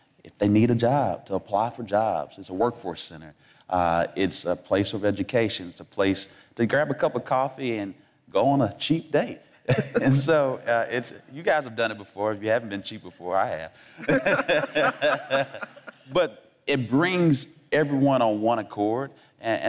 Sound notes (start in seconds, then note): 13.9 laughing